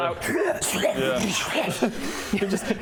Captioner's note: slrurghbrulughurgh